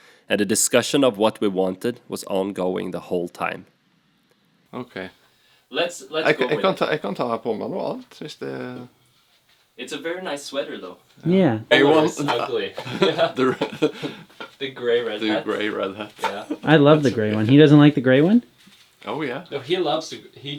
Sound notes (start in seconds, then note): 7.3 norwegian speak